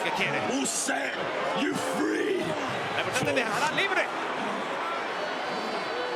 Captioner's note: applause